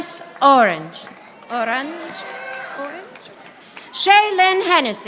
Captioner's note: audience applauding